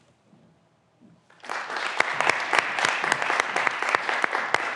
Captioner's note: graduands applauding